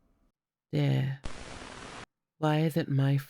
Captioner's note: static sound